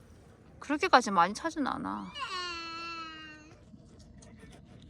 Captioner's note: the kid next door is crying